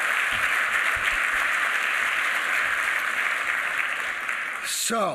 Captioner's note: applause